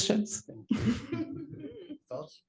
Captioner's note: laugh